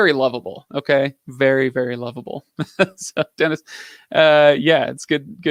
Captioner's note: laughs